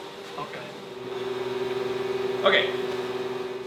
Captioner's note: printer continues whirring